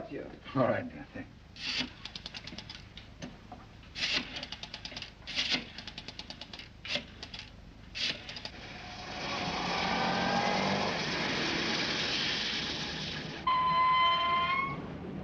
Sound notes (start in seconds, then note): 3.6 rotary whirring; 8.9 engine chugging; 13.2 brakes squealing